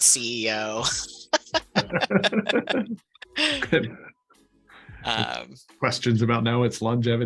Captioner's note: laughter